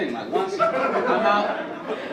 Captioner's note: audience laugh